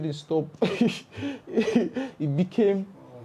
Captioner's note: laughs